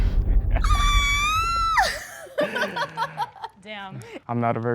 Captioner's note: girl screams; laughter